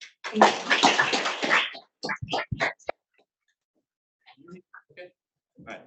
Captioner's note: audience applauding